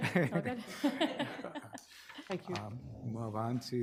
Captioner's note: laughs